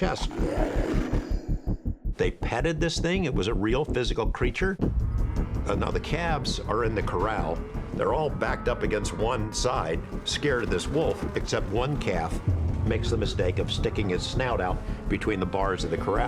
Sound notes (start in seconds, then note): 0.1 snarling; 6.4 distressed lowing